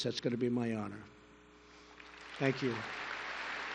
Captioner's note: applause